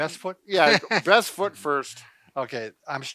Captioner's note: laughs